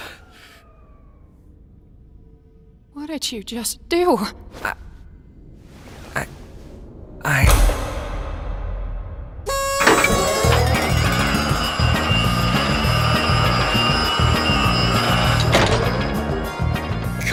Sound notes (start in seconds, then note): 4.5 stammers; 7.4 clang!; 9.4 whistle toots; 11.1 celebratory music plays